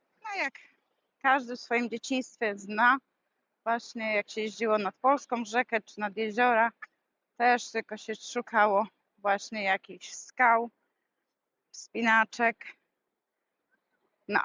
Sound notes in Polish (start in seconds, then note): none